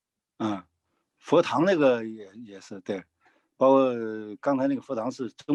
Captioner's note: speaking in foreign language